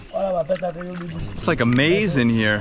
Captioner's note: men speaking foreign language